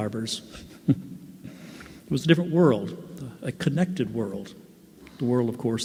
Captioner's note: laughs